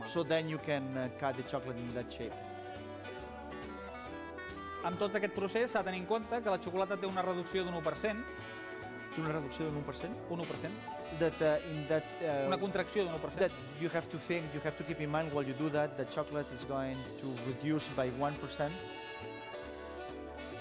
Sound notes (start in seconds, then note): 0.0 non-english speech; 4.8 non-english speech